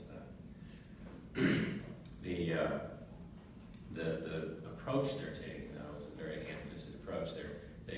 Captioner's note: cough